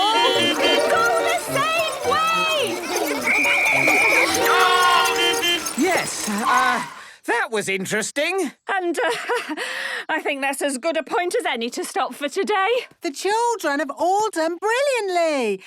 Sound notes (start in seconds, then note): 0.0 beeping; 3.2 whistle blowing; 5.1 beeping